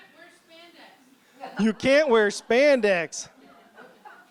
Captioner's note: laughter